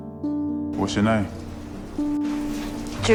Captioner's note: voiceover